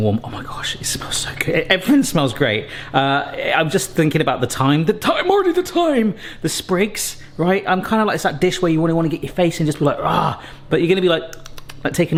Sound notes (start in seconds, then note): 9.9 growls; 10.0 smacking lips